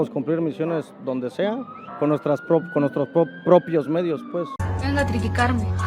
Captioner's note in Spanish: Tartamudea